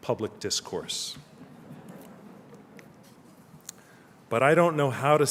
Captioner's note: laughter